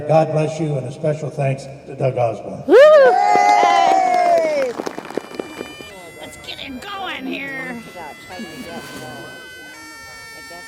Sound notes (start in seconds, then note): 2.6 group cheers; 2.7 group applauds; 7.7 bagpipe music